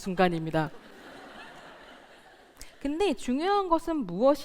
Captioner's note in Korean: 웃음